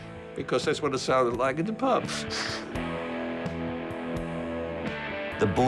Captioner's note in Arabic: يضحك